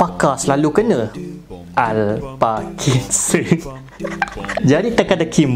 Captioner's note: laughing by himself